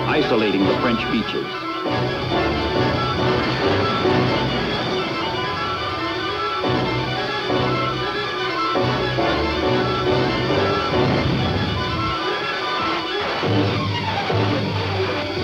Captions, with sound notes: isolating the French beaches. (suspenseful orchestral music) (bombs exploding) (cannon blasts)